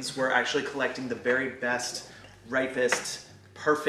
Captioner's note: none